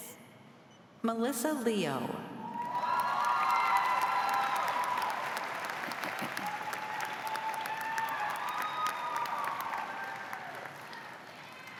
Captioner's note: cheers and applause